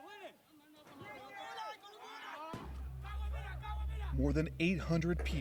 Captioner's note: people shouting